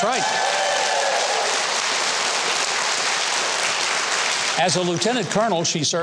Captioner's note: audience cheering; audience applauding